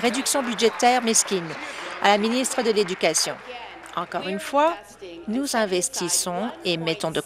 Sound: applause

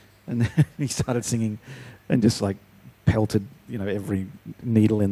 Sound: chuckling

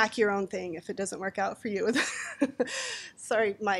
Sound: laughing

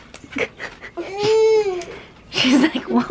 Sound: whines

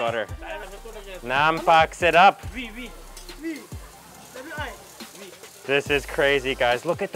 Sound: speaking in foreign language

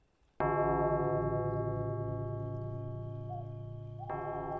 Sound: clock chiming

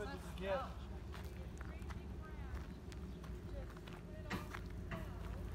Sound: on the phone in the background

